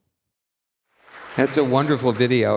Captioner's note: audience clapping